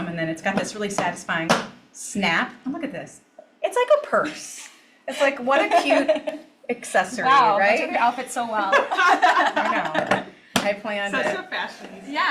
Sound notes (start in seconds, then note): 8.7 all laugh